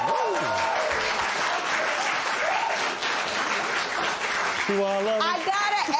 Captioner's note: cheering and applause